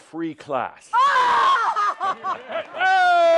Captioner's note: howling